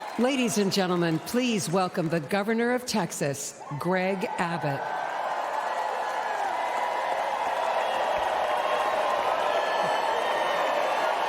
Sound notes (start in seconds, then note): 1.3 cheers and applause; 10.4 cheers and applause